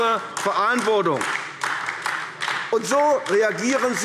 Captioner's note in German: Beifall AfD